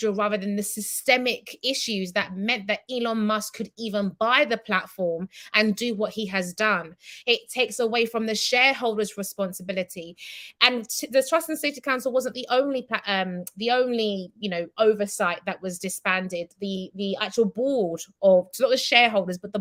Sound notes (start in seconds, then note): none